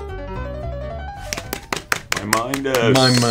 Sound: applause

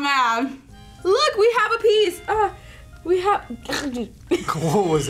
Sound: snarls

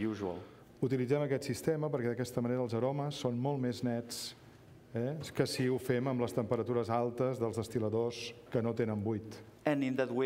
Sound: speaking catalan

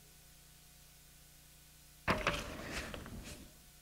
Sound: pause

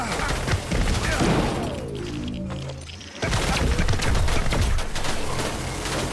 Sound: gunshots

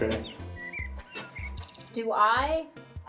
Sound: in game: birds chirping

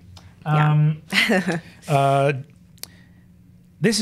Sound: laughs

